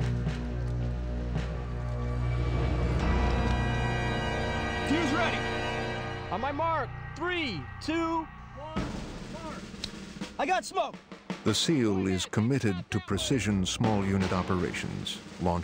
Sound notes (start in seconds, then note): 4.9 voiceover; 11.5 voiceover